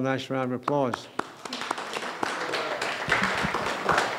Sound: clapping

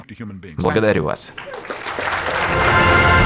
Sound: applause

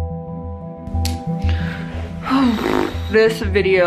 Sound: eerie music; sighs

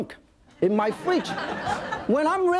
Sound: audience laughing

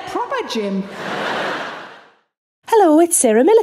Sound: audience laughing

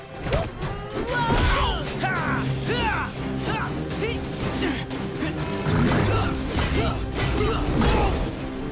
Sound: grunting

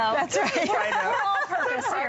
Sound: laughter

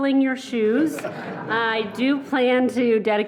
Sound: laughing

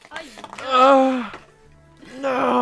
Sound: moan?

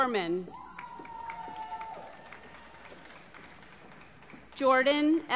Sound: applause

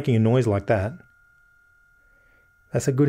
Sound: electrical buzzing

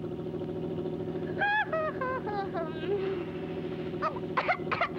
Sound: Betty yawns; Betty coughs

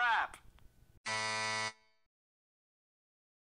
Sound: laughing guy; buzzer sound

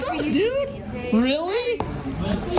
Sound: mom chatting

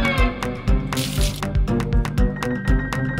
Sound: water splash

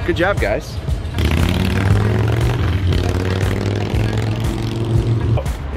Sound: motorcycle engine revving

